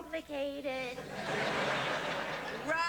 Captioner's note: laughter